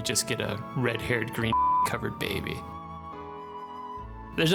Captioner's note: beeping